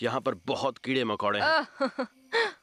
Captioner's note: groans